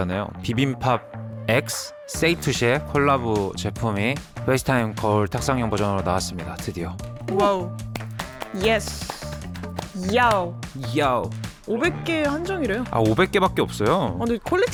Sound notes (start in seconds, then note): 8.5 excited sound about the mirror's release